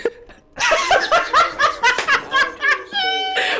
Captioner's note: laughter